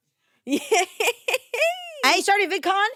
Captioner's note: laughs